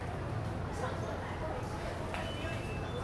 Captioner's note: ambient beeps, footsteps, and voices in the MTR station